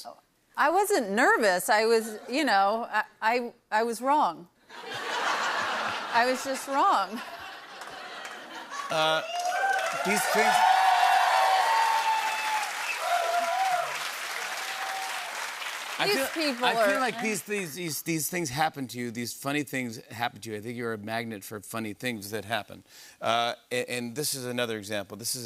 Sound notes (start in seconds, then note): 4.7 laughter; 7.8 cheers and applause